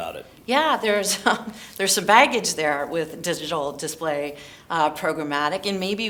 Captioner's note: laugh